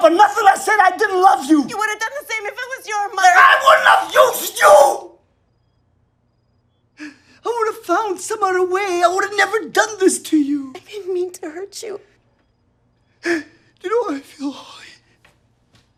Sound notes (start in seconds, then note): 7.1 he cries; 13.4 he cries